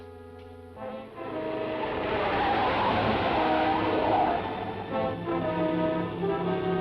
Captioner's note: dramatic orchestral music; tires squeal